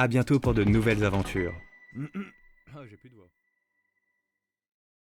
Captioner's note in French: tousse